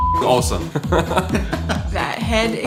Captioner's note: laughter